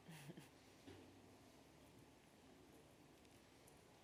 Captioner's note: chuckles